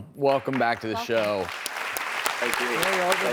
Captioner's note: audience clapping